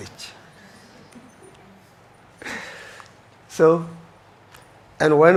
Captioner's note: audience chuckles